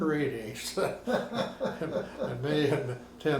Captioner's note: both laughing